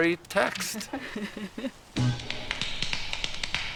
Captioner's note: laughing